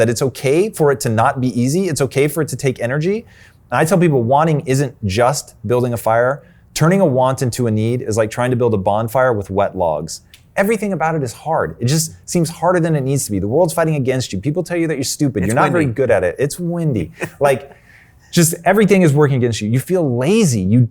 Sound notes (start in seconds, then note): 15.5 mumbling; 17.0 chuckles